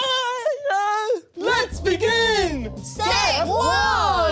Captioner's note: the Giggles